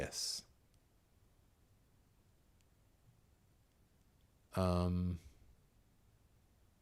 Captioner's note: silence